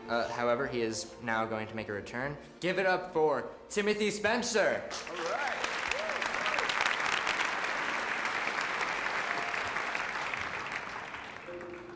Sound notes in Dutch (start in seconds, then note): 4.9 applaus